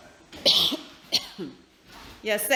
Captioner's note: coughs